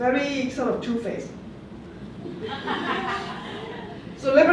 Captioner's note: laughter